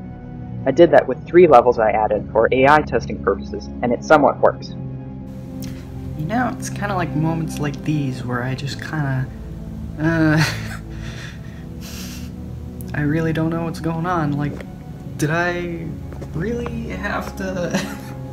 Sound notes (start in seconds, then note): 10.0 laughs